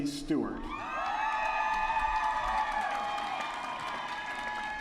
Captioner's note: applause